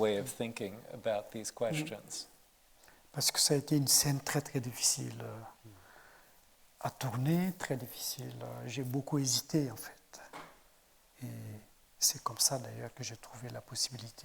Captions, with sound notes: of thinking about these questions. - (speaking in French)